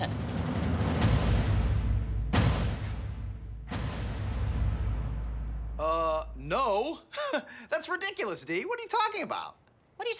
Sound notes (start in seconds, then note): 0.0 intense music; 6.8 chuckles